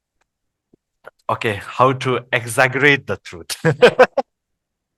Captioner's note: laughters